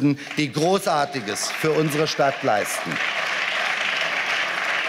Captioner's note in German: Beifall